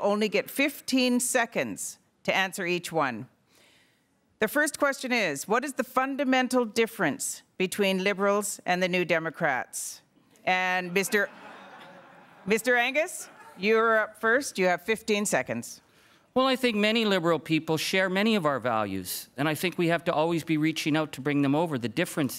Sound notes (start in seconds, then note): 10.8 crowd laughing